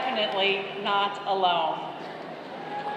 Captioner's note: applause